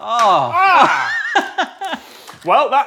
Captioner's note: laughs